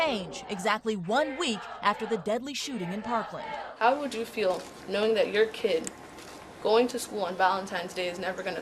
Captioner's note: chanting